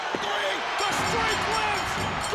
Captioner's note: bell rings